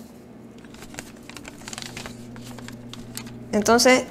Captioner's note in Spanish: papel arrugándose